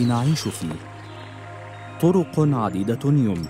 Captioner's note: birds chirping